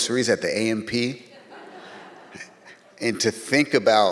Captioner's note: audience laughs